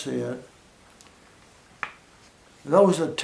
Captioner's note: pause